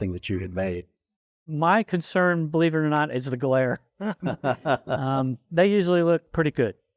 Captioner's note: laughs